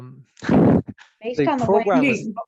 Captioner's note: laughs